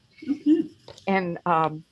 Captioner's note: chuckles